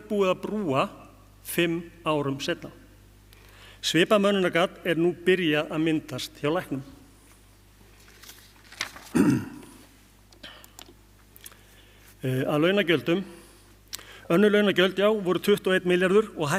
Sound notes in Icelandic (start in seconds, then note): 9.1 ræskir sig